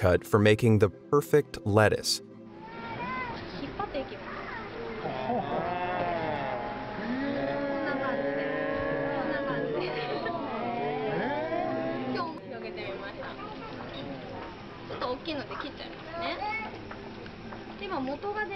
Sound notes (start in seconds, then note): 3.2 crowd; 3.2 speaking foreign language